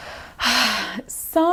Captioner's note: sighs